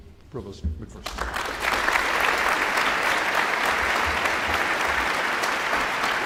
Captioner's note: audience applauding